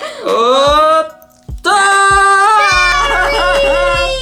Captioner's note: both scream